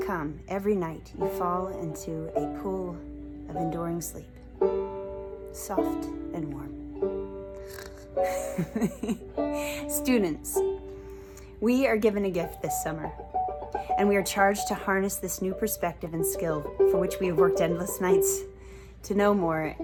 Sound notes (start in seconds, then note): 7.6 imitates snoring; 7.9 laughs